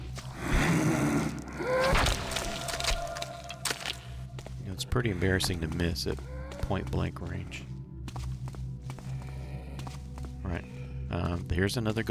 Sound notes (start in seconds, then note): none